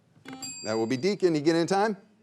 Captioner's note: bell chimes